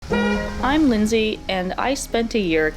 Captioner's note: honk